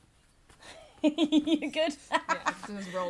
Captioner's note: laughs